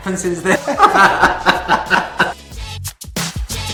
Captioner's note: both laughs